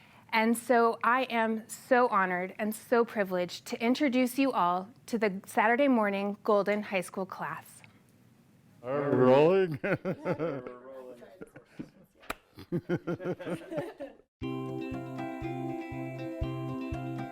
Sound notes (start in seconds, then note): 10.4 laughter; 14.4 bright music